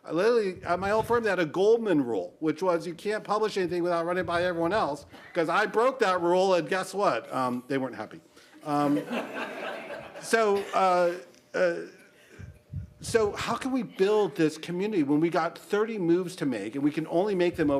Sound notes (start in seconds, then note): 8.7 laughter